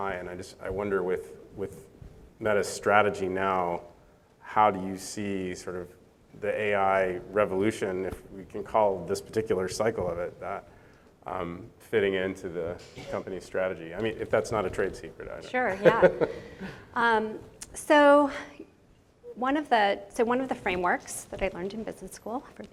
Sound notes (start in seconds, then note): 15.7 chuckles